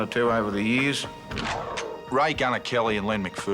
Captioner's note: gun cocks